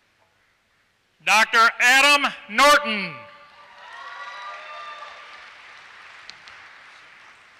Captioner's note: applause